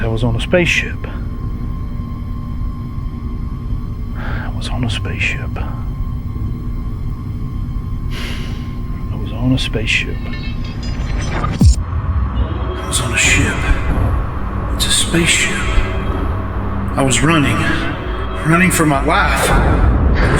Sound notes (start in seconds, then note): 8.1 sighs; 11.3 mysterious rattling